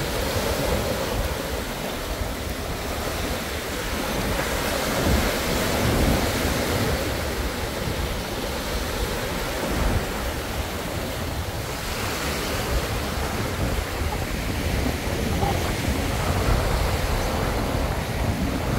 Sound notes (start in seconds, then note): 6.8 waves crashing